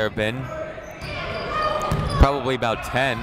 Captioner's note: people shouting in the crowd